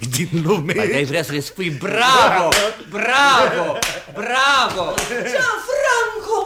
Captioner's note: claps 3 times